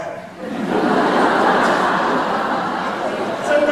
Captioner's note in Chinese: 哄堂大笑